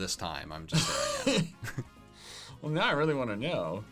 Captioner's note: laughing